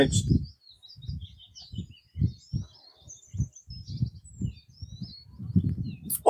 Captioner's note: birds tweeting